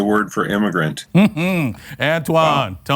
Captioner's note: laughs